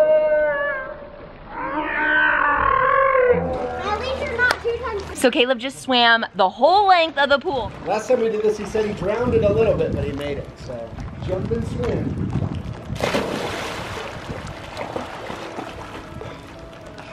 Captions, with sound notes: - At least you're not two times ... - So Caleb just swam the whole length of the pool. - The last time we did this he said he drowned a little bit, but he made it so ... Jump and swim. (splashing noises)